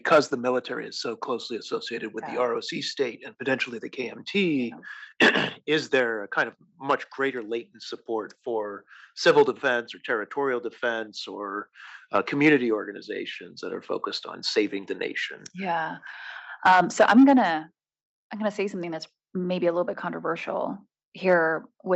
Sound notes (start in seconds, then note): 4.8 cough